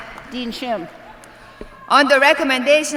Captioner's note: applause